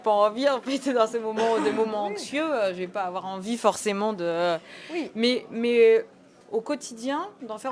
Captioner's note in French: rires